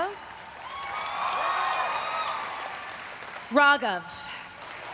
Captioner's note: everyone cheering and applauding